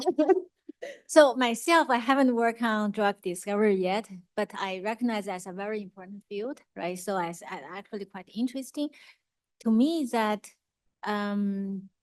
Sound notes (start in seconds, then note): 0.0 laughs